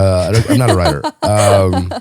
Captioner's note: laughing